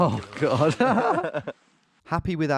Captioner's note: laughing; laughs